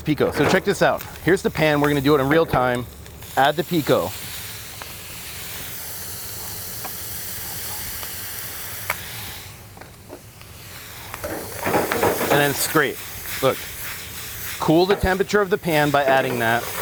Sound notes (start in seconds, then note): 4.3 sizzling